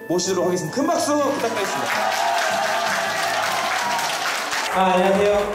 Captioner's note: applause